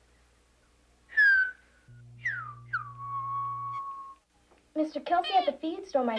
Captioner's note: Mary Tom whistling